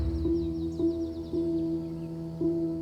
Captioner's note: birds singing